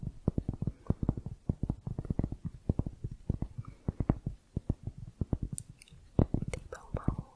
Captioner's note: tapping on cork